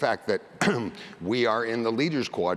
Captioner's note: cough